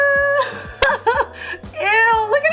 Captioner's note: laughing